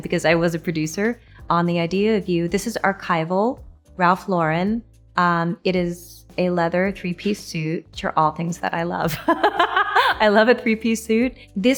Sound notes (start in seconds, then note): 9.0 Anne laughing